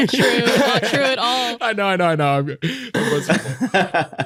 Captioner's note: laughter